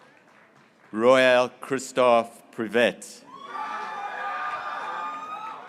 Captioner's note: graduates cheering